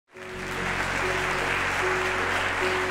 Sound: applause

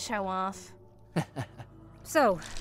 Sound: chuckle

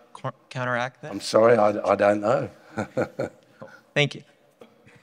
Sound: laughs

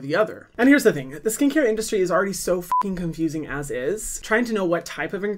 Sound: beep

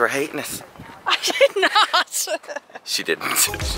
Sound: laughs

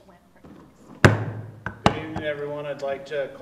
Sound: gavel bangs

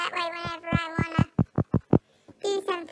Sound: furious phone tapping

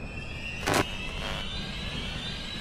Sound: eerie strings; light static warble

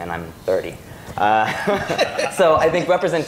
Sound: laughter

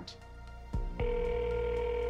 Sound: phone ringing

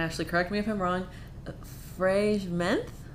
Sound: speaking foreign language

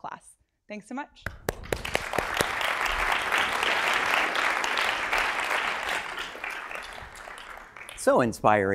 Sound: applause

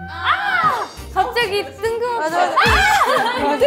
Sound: mimicking her shouting

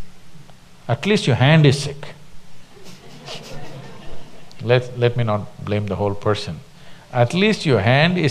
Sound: few laugh

